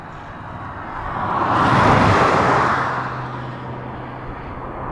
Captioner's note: cars whooshing